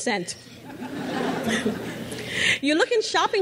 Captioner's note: crowd laughs